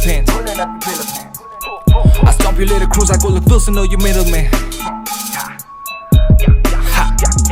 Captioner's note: hah